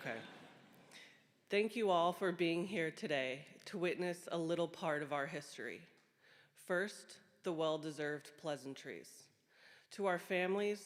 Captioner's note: applause